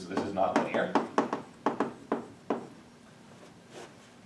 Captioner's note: chalk tapping